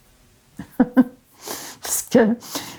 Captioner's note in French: rire